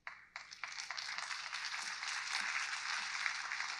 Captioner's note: audience applauds